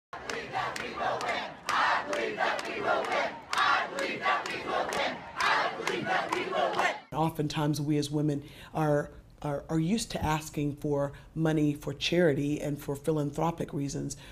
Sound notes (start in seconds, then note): 0.1 chanting